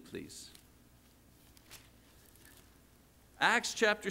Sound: pages flipping

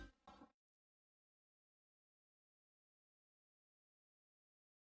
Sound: silence

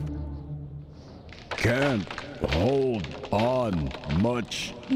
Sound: branch breaking

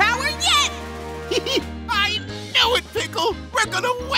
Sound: chuckles

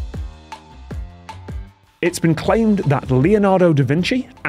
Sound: none

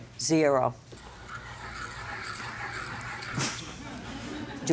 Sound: pen writing on paper

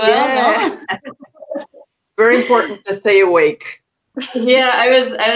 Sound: laughs

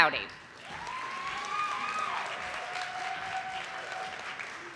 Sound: audience applauding

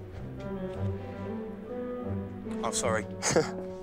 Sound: chuckles

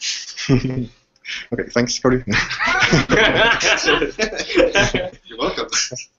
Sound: laughing

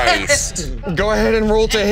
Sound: laughing

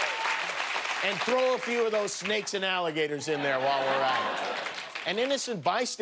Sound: cheers and applause

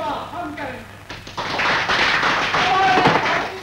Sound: crowd Applauding

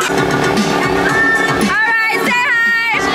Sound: boat engine hums

